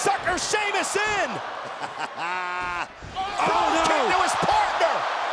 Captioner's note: laugh